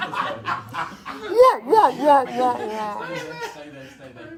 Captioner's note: all laugh; whoops